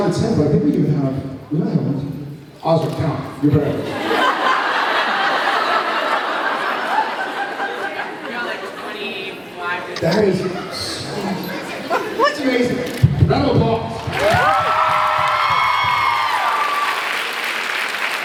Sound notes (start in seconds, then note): 3.9 laughs; 13.8 thumps mic; 14.0 cheer, applauds